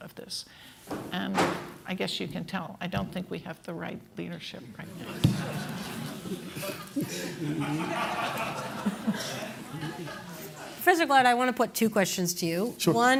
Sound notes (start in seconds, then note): 5.0 laughter